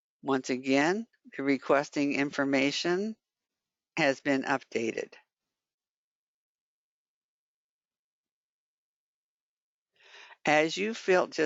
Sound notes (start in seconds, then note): 6.2 5 seconds pause